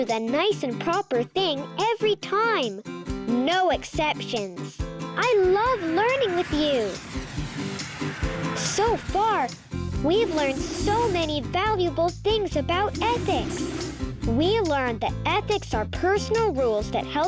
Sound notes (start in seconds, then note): 5.4 spaceship whooshing